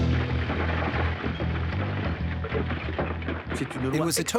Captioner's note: glass shattering